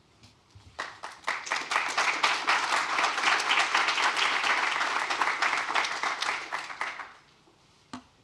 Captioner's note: applause